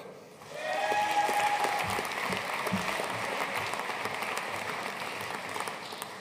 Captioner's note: audience cheering and applauding